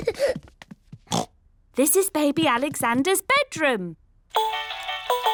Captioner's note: oinks; mobile playing loud music